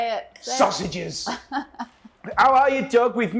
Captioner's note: laughs